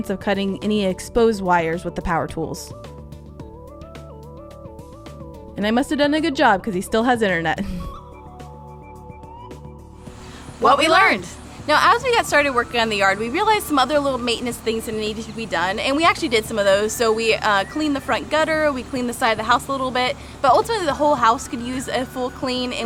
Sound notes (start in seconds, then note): 3.4 upbeat music continues; 7.6 chuckles